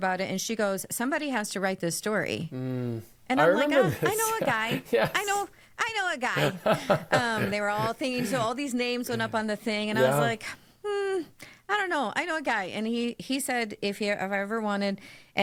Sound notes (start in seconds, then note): 6.3 chuckling